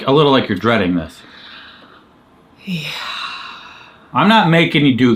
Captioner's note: inhales deeply